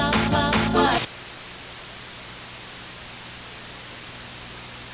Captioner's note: television static